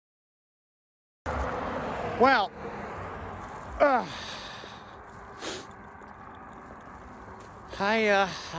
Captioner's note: grunting